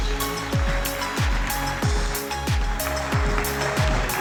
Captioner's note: applause